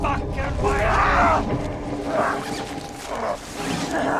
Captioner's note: Eddy yelling